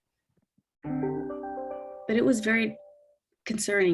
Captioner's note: device chiming